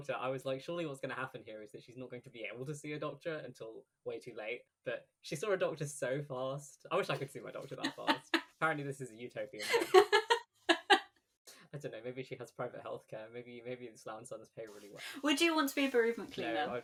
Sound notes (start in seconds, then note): 10.7 laughs